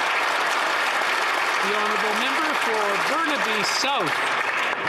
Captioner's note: applause